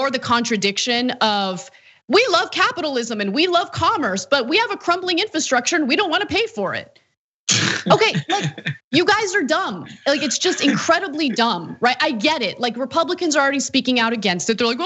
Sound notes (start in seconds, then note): 7.6 laugh